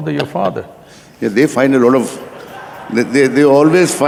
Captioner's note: both laugh; laughter/Applause